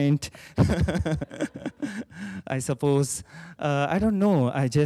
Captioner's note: chuckles